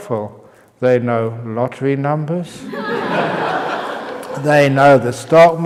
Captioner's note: laughter